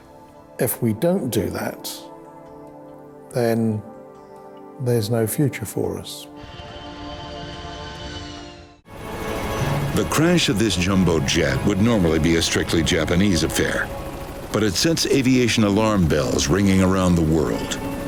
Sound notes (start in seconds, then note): 7.0 airplane engine whirring; 9.5 helicopter blades whirling